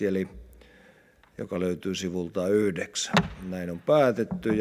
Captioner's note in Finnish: kopauttaa nuijaa